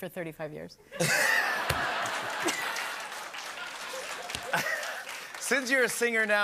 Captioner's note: laughter and applause